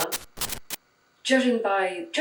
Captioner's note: static glitch